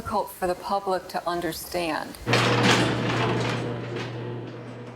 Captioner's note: metal door clanking